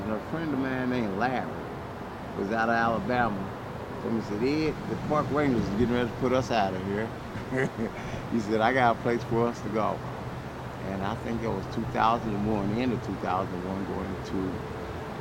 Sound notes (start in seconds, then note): 7.2 laughing